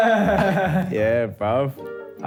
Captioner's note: laughs